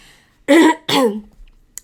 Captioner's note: clears throat